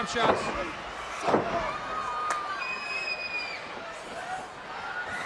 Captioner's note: canvas banging